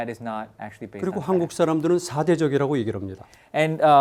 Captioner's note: speaking in Korean